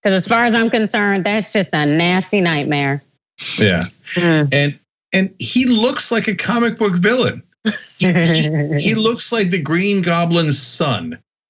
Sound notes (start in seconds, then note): 7.7 laugh